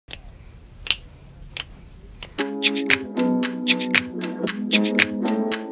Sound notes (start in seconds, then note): 0.3 fingers snapping; 2.2 beatboxing music